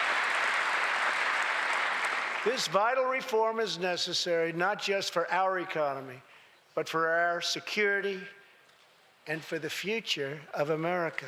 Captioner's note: applause